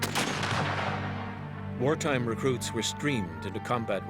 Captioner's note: voiceover